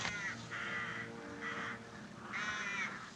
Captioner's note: crows Squawking